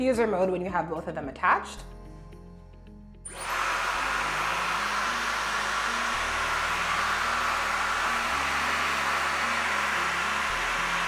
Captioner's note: hair dryer sound